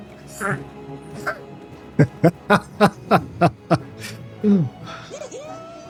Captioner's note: laughs